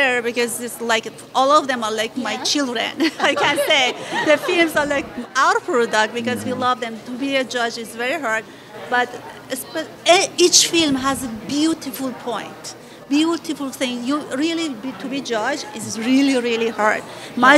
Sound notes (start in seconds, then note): 2.9 laughter